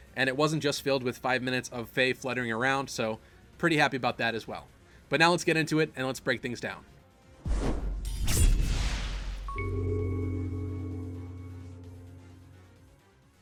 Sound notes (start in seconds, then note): 7.4 swoosh; 7.6 sword slash; 9.3 intro jingle